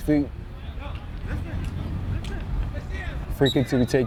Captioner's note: players shouting